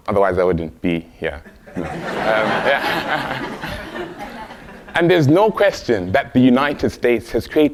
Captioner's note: laugh